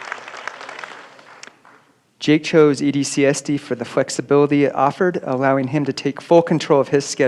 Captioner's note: applause